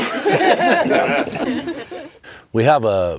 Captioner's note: laughs